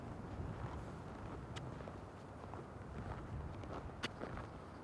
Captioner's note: creaking footsteps